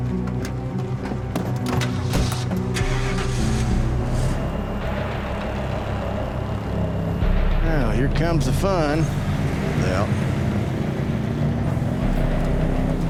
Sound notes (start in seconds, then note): 0.8 doors thudding; 1.2 engines revving; 4.4 tense music